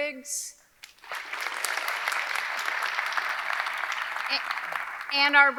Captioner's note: audience clapping